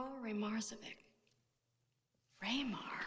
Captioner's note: none